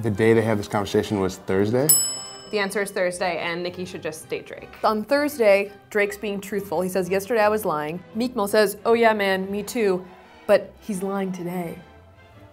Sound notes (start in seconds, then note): 1.9 bell dings